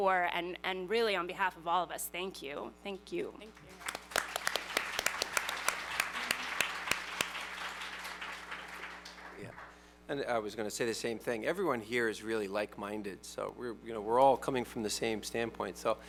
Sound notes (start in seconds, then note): 3.5 applause